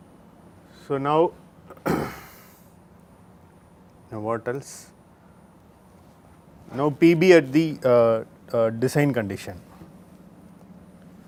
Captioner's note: shock